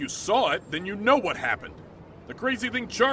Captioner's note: walkie talkie